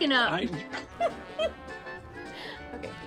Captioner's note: laughs